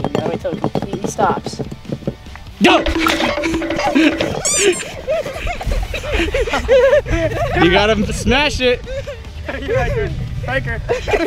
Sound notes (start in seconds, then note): 2.6 timer counting down; 4.1 squeak; 5.7 laughing